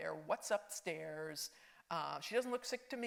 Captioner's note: none